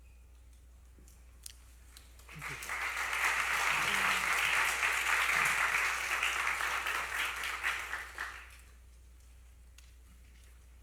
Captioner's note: applause